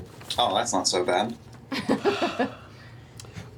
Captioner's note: laughs